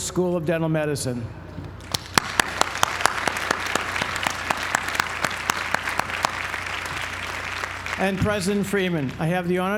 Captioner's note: applause